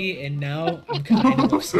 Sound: laughs

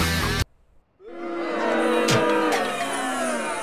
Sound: crowd boos

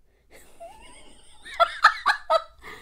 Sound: laughs

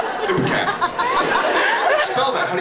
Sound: laughs

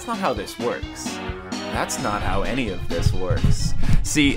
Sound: mic shuffling noises

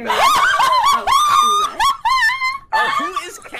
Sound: laughing

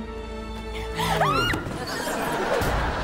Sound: screaming

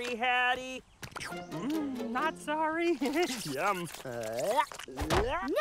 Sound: slurping

